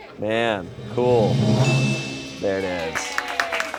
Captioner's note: bell chimes; crew cheers and applauds